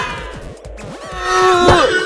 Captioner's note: all scream; all scream, especially fries